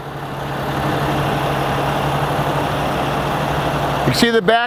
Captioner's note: engine revving